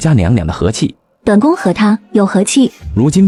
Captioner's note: scoffs